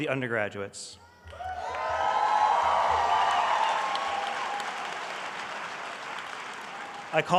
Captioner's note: applause